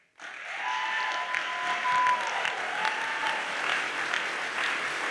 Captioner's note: audience cheers and applauds